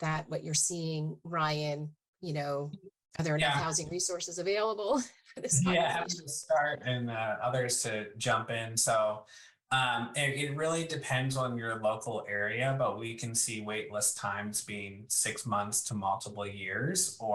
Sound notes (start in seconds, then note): 5.4 laughs; 5.9 faintly speaking